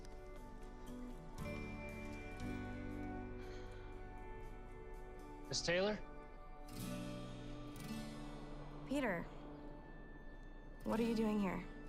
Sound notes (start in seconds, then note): 2.8 sighs